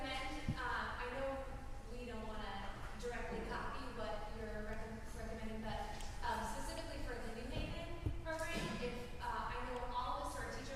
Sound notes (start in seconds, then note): none